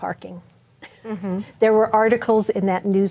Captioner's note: chuckles